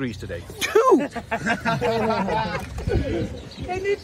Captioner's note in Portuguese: risadas